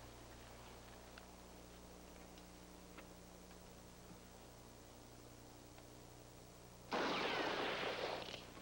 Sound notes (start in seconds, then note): 6.9 gunshot